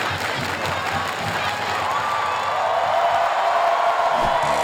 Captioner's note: crowd cheering